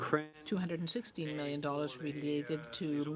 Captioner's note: speaking French